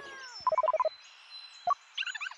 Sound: phone rings

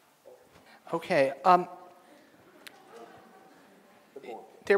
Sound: audience laughs

